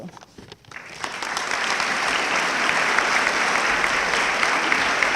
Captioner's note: audience clapping